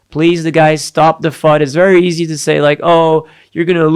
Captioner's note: none